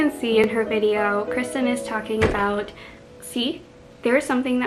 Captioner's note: bang!